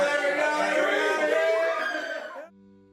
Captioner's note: screams